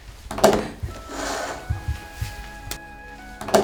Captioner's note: beep beep beep